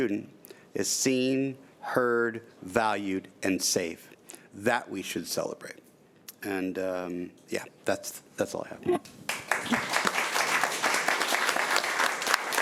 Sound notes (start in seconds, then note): 9.2 applause